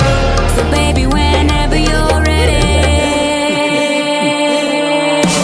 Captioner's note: Bric & Brac Laugh